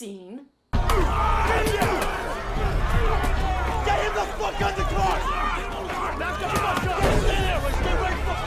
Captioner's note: people screaming, grunting, sounds of heavy impact